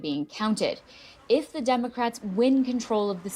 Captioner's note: crowd noise